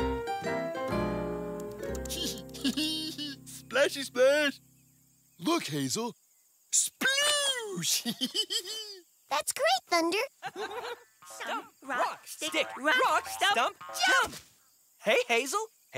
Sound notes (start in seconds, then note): 2.0 giggling; 7.8 laugh; 7.9 giggling